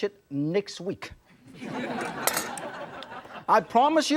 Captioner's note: audience laughs